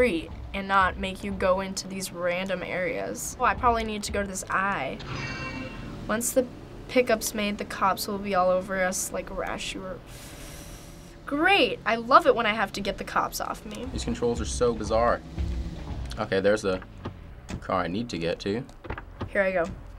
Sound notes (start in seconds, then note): 5.0 chime; 9.7 sucks air through teeth